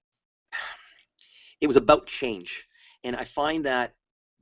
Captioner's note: sigh